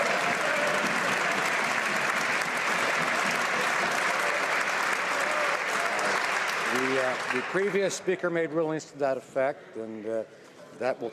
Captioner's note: some Applause